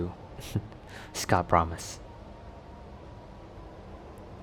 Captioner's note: chuckle